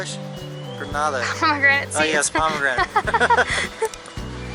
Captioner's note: laughter